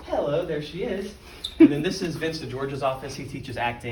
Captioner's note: laugh